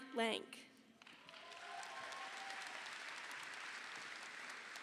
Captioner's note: audience applauding